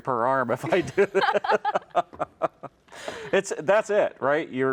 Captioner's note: laughs